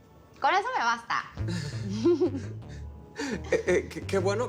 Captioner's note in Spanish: Risas